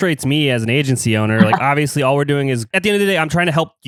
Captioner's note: laughs